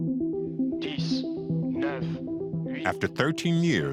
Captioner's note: tense music; speaking foreign language